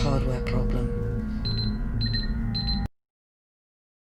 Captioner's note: beeping